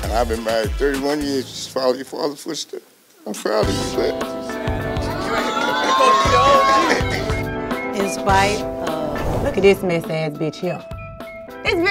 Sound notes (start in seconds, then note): 4.4 excited murmuring